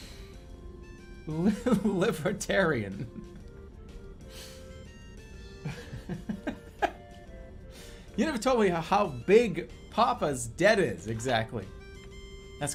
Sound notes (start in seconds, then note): 5.6 giggling